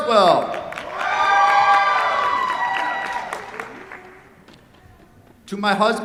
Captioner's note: cheers, applause